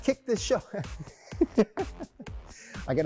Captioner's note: laughs